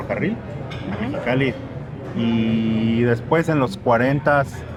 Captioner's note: speak in Spanish